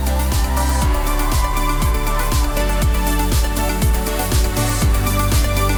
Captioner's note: audience cheering and applauding; upbeat cheerful music continues